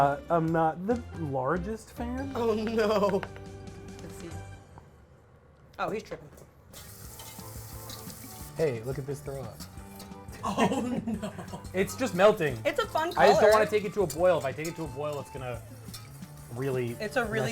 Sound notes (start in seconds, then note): 3.8 spoon tapping; 6.4 food sizzling